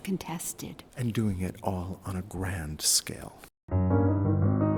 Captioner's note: voiceover; jazz piano music